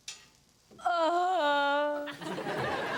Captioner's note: Robyn moans; audience laughs